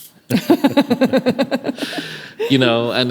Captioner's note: laughing